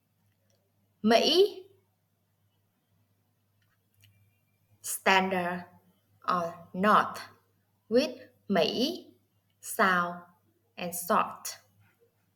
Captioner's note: Vietnamese